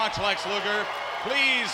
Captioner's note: audience cheers